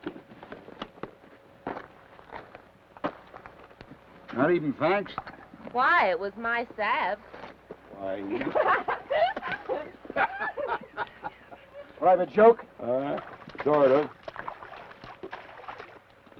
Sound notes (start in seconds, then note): 8.3 Laura laughs; 10.3 Theodore laughs